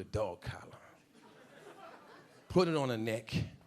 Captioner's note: a few audience members laughing